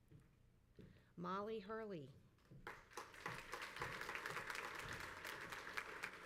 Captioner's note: crowd applauds